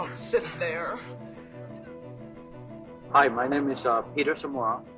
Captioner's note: soundbite of tv show, "the real world san francisco"